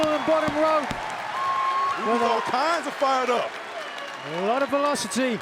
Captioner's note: applause